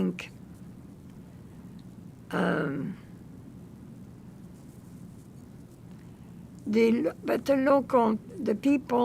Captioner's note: pauses 6 seconds